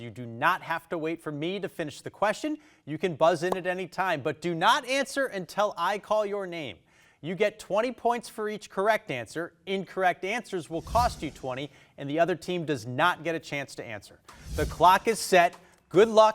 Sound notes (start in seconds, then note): 10.6 text whooshing; 14.2 text whooshing